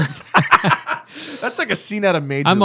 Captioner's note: laughter